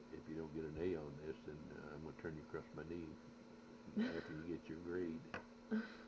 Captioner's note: laughs